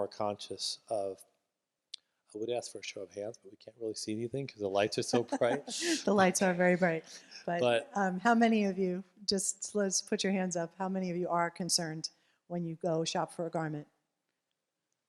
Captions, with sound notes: conscious of I would ask for a show of hands, but you can't really see anything because the lights are so bright. [LAUGHTER] The lights are very bright. How many of you just put your hands up. How many of you are concerned when you go shop for a garment?